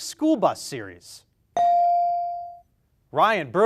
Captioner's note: beep